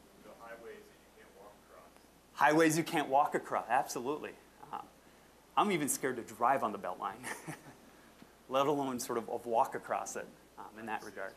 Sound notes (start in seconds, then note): 7.2 chuckling